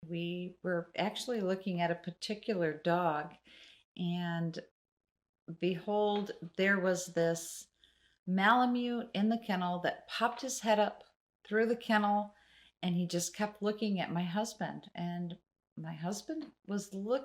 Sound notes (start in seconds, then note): none